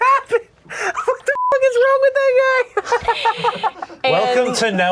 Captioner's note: beep